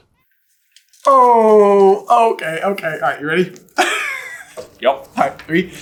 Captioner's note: bursts into giggles